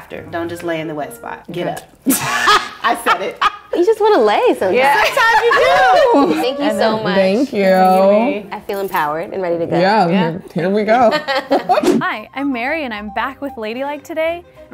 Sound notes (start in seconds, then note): 2.1 buzzing; 2.1 laughs; 5.0 laughs; 11.0 laughs